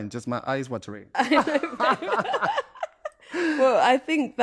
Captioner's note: laughter